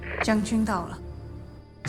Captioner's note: niece speaking foreign language